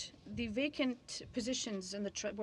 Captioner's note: speaking in french